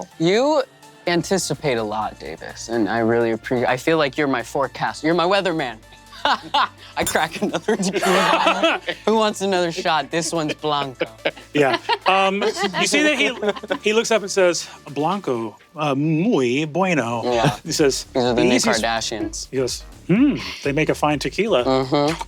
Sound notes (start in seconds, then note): 7.2 laughs